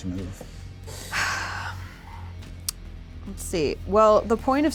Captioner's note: sighs